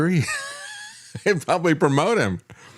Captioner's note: laughs